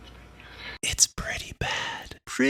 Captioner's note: whispered